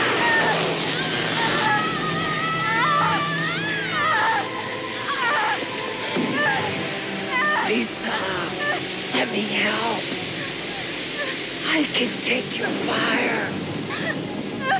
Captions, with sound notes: [electrical buzzing] Lisa! Let me help! I could take your fire.